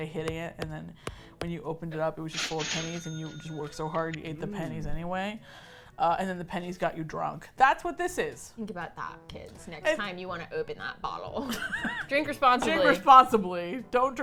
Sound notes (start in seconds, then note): 8.3 smug voice; 11.3 laughs